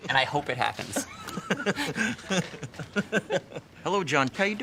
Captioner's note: both laughing